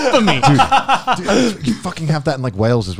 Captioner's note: laughs